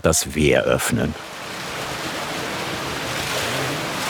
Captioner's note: splashing water